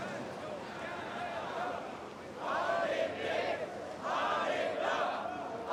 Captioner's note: crowd continues chanting